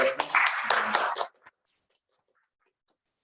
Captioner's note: applause